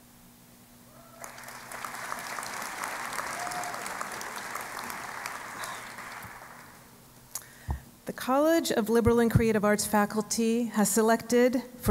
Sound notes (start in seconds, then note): 1.1 applause